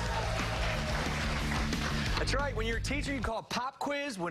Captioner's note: cheers and applause